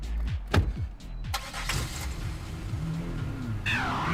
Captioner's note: car door slams